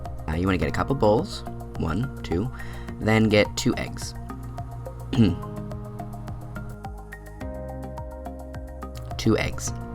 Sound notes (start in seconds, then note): 5.1 coughs